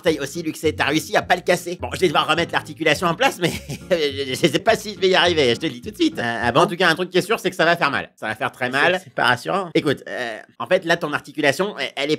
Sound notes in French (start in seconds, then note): 3.4 rires